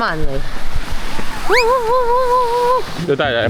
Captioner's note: whining